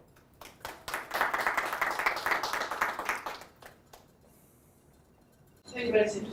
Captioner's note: applause